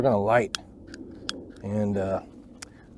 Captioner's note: lighter Click, Click Sound